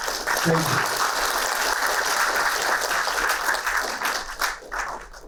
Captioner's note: applauding